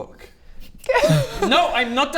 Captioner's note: cringe laugh